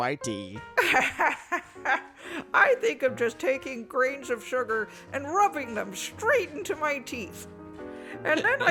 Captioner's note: laughs